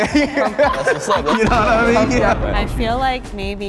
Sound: group laughs; explosion

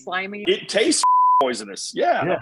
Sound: beep

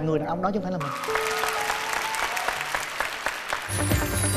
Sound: applause

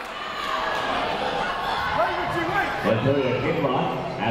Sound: people shouting in the crowd

